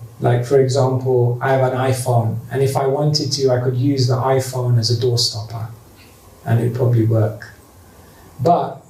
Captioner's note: none